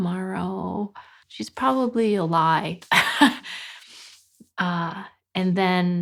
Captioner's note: laughing